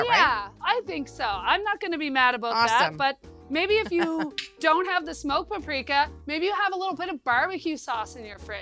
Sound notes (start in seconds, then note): 3.8 laughs